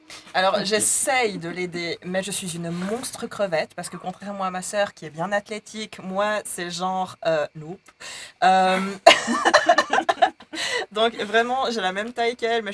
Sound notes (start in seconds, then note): 8.8 laughs